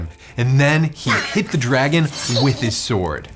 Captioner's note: girl grunting